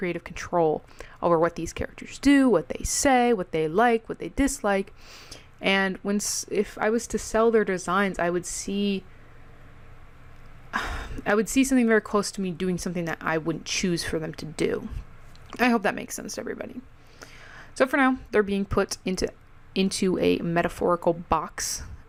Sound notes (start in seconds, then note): 10.7 sigh